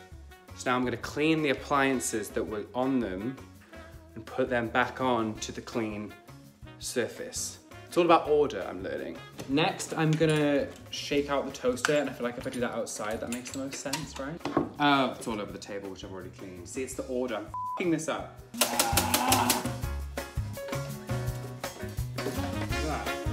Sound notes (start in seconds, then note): 17.5 beep; 18.4 rattling; 18.4 yelling; 20.0 upbeat jazz music